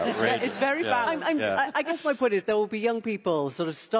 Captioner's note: laughter